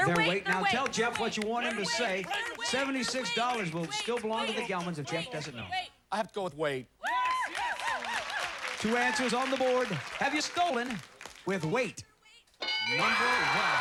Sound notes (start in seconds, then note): 7.0 cheers